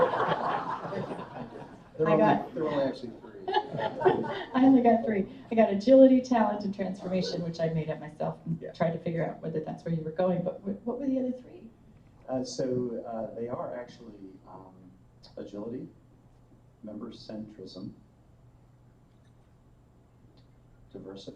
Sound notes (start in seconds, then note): 3.3 laughter